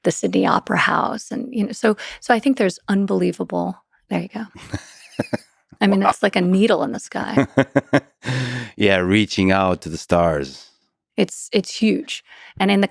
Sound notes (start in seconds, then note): 4.5 Lex laughs; 7.2 laughs